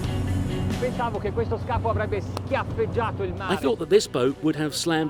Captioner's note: speaking in foreign language